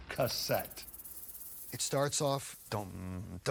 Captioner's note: vocalizes